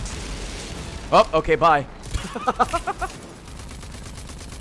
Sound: laughs

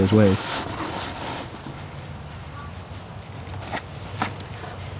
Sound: cardboard box scratches

